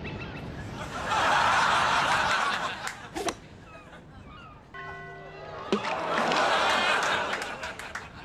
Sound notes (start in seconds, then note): 0.8 audience laughs